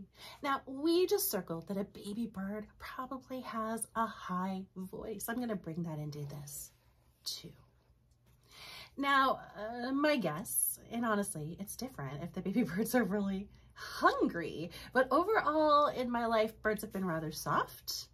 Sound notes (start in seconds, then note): none